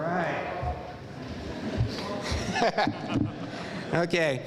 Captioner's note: laughing